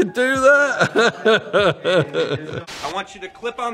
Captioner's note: laughing